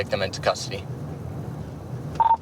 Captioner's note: radio beeps